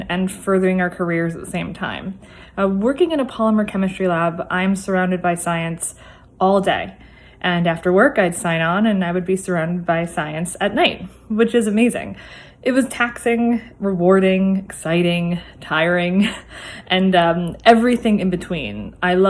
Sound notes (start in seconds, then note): 16.2 laugh